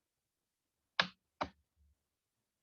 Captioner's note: keyboard sound